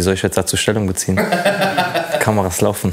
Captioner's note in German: Lachen